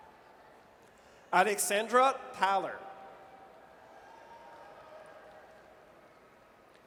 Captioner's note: audience cheers